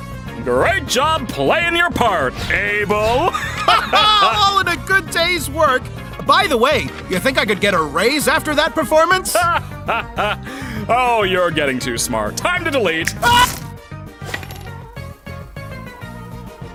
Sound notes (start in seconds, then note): 3.1 both laugh; 9.2 laughs